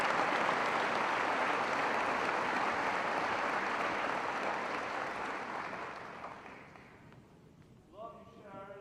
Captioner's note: applause